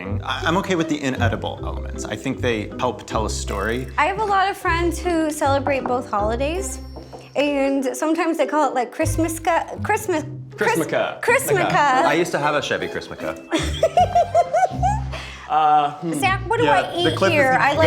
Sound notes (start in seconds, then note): 13.5 giggling